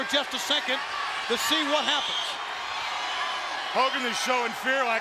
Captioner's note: audience cheering